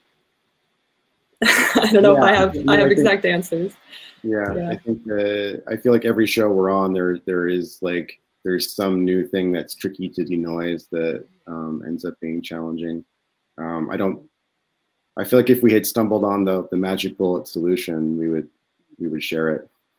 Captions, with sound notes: (laughs) I don't know if I have exact answers. - I feel like every show we're on there is some new thing that's tricky to denoise that ends up being challenging. I feel like if we had stumbled on the magic bullet solution we would share it.